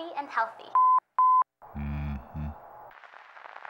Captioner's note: beeping